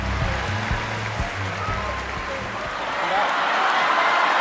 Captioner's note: audience cheering